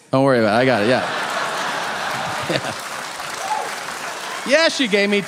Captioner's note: audience laughing